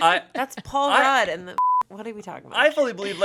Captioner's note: beep